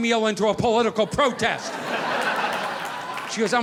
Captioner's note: audience laughing